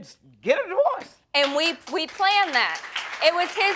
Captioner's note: audience applauding